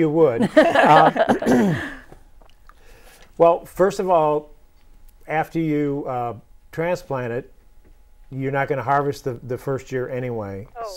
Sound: laughing

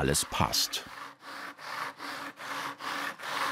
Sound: grinding noises

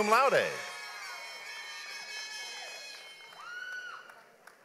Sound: audience applauds

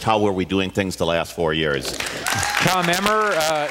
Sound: applause, cheers

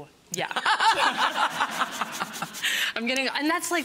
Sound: laughing

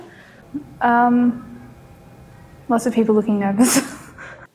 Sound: laughs

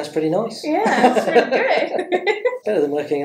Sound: laughs

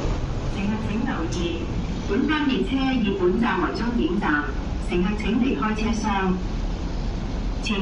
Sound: Cantonese

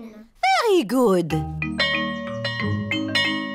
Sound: bell chimes

